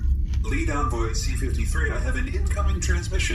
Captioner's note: sound of incoming transmission